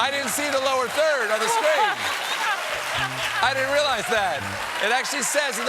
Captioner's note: laughter